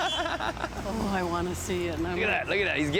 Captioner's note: laughs